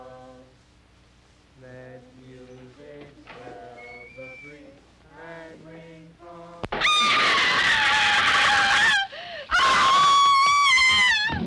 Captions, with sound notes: Let music swell the breeze and ring from all-- [screaming]